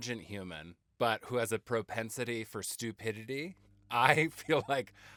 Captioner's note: laughing